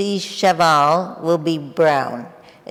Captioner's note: speaking in foreign language